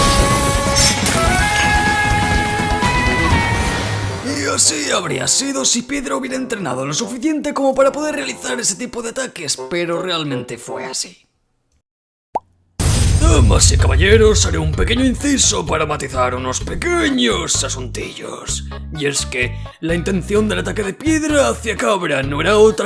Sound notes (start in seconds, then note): 12.3 boop